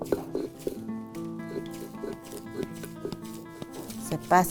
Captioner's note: stone whirring